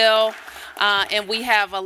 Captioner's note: applause